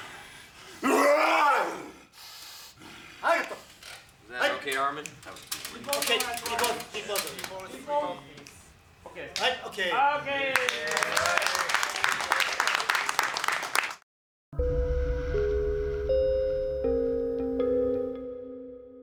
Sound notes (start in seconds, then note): 0.8 shouts; 4.3 in English; 10.4 cheering, applause